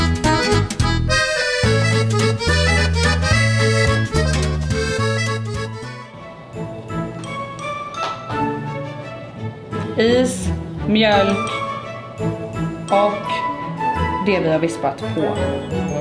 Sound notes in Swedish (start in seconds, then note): none